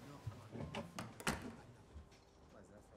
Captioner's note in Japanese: ドアが閉まる音